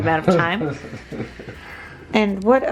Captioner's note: laughing